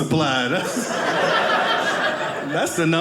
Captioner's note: audience laughing